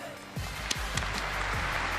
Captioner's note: applause